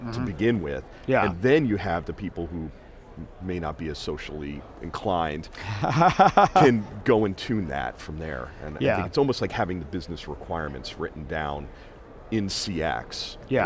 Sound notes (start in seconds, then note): 5.6 laughing